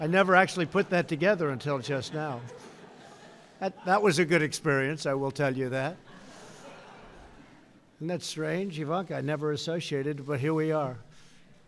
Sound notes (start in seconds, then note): 6.0 laughter